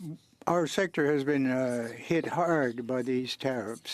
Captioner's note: speaking French